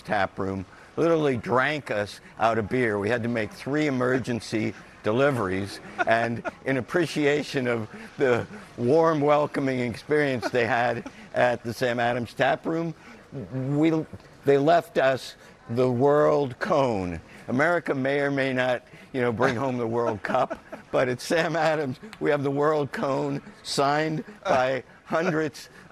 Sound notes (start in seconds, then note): 9.9 laughter